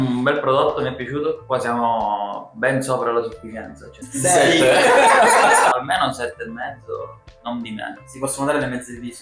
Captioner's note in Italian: risate